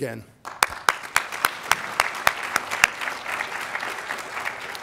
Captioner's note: audience applauding